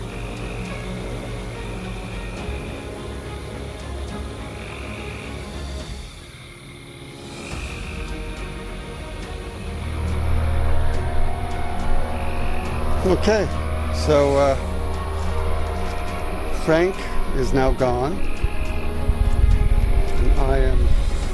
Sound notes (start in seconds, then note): 0.0 motor revving; 0.0 suspenseful music; 2.4 motor revving; 2.4 suspenseful music; 7.1 crickets; 7.1 suspenseful music